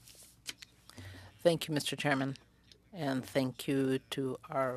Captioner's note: speaking French